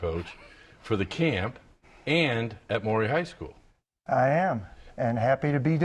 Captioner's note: laughter